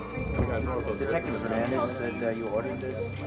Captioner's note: dramatic music; officers chattering